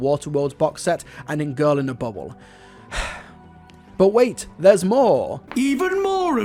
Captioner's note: sigh